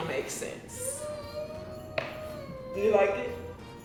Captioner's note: whines